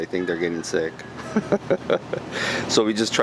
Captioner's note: laughing